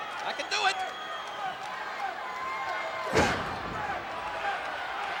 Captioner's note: crowd cheering